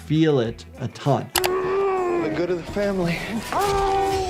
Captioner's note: person groaning